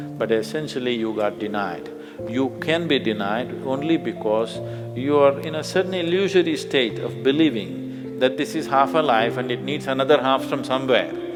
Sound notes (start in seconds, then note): none